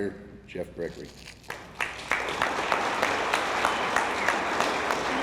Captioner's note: attendees applauding